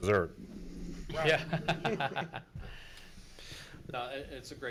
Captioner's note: laughs